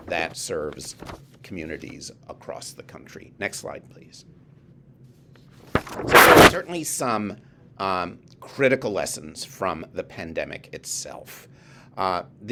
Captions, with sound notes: that serves communities across the country. Next slide please. (paper shuffling) Certainly some critical lessons from the pandemic itself.